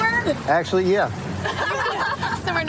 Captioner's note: laughter